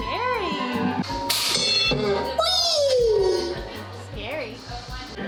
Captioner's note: Pygmy Puff yelling in the background